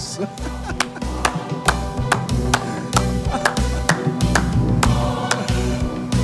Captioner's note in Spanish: Aplausos